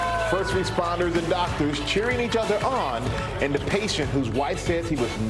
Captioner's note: applause